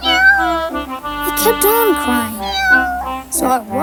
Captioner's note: cat meows